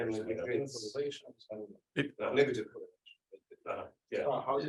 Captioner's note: group discussing